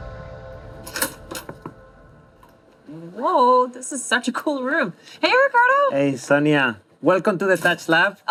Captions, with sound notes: (knocks on the door) Whoa, this is such a cool room! Hey Ricardo! - Hey Sonia. Welcome to the touch lab.